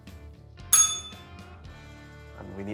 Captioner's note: bell rings